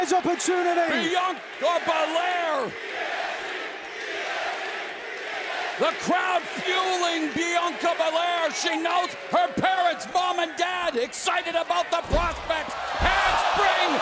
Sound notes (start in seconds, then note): 3.9 crowd cheering